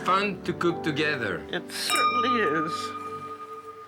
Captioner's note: glasses clink